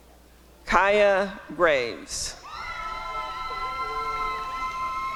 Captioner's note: applause and cheering